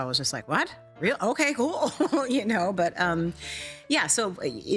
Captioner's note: chuckling